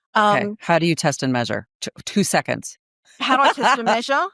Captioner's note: laughing